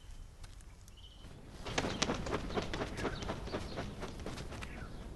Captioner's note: bird flying